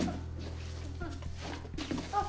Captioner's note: whimpers